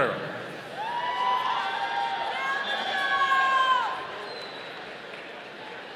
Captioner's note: audience cheering